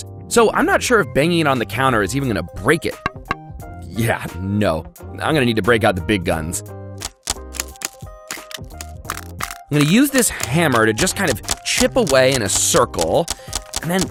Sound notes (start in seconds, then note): 3.0 egg thuds; 8.2 egg crackling